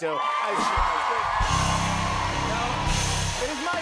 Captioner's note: cheers and applause